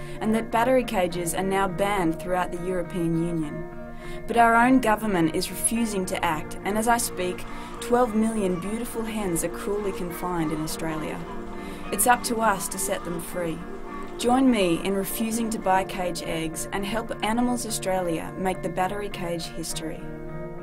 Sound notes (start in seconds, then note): 10.7 chickens squawking